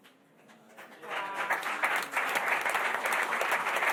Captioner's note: applause